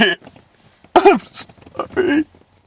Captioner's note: weeping